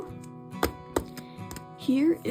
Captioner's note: tappity tap tap